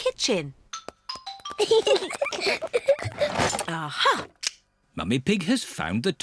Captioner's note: peppa and george giggling